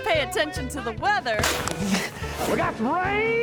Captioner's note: fist thuds